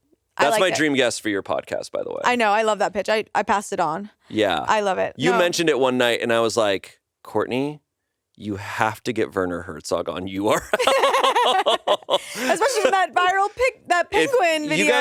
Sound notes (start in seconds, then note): 10.6 everyone laughs